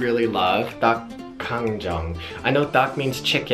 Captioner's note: speaking foreign language; speaks foreign language